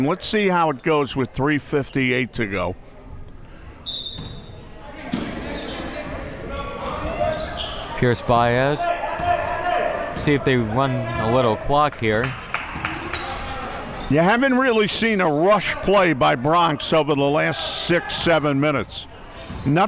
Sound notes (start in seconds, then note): 3.8 whistle blaring